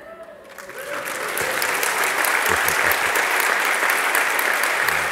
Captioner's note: loud applause and cheering